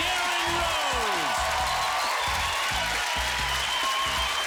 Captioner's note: cheers and applause